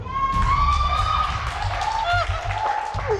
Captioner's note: cheering and applause